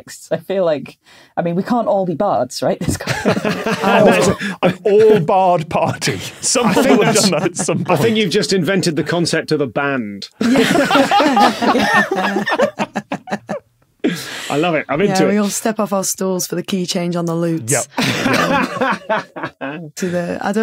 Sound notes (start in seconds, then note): 3.0 laughs; 10.4 guests laughing; 10.4 laughs uproariously; 17.9 laughs heartily